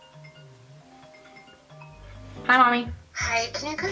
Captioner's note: phone rings